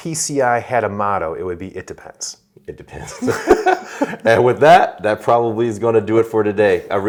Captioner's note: laughing